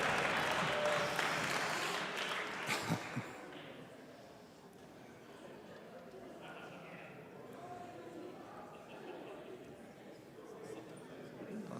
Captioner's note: applause